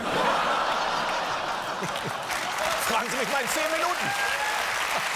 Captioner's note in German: Applaus